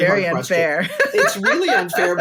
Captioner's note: laughs